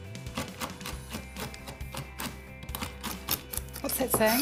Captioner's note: knife chopping